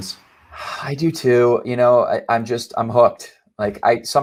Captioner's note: sighing slowly